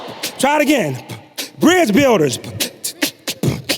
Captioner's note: beatboxing